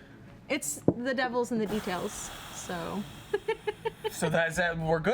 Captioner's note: lightly laughs